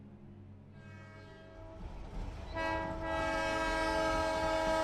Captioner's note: train whistling